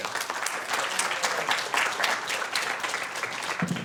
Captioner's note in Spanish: Aplausos